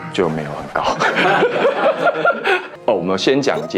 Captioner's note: laughs